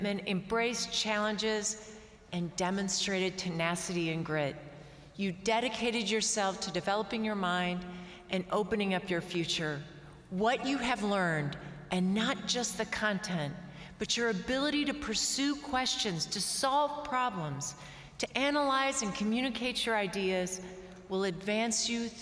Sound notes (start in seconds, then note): none